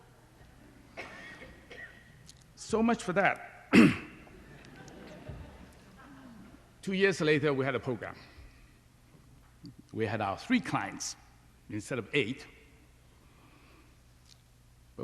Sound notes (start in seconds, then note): 4.4 laughter